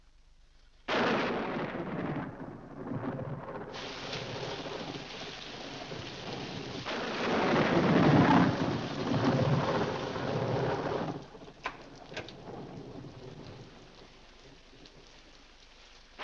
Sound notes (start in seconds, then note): 0.8 loud thunder; 3.7 rain falling heavily; 6.8 loud thunder; 11.6 door opens